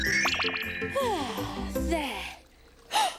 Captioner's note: gasps; sighs